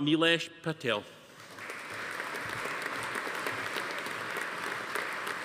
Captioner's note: audience applauding